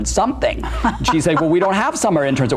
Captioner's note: laughs